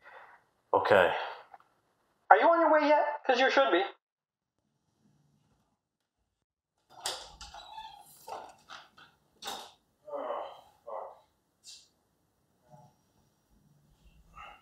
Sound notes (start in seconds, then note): 6.8 door creaking